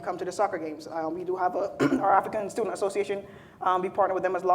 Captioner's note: clears throat